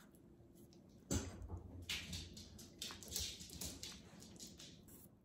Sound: dogs playing sound🐶

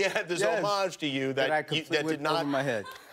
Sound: laughter

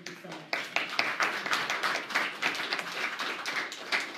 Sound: applause

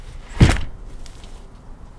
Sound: door closes

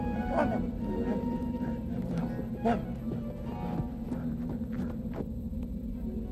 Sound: out-of-breath panting

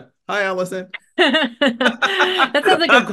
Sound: laughter

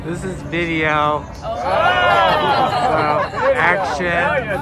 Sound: people groaning

